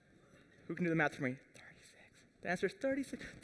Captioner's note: whispers